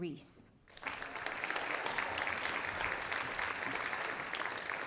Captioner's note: audience applauding